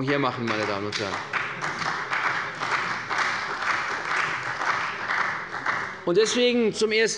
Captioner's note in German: Beifall bei der CDU und dem BÜNDNIS 90/DIE GRÜNEN